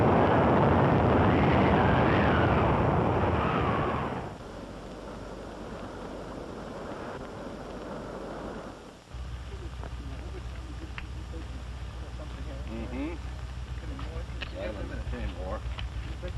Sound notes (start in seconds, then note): 10.8 indistinct chatter